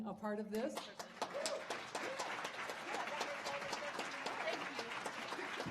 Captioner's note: audience applauding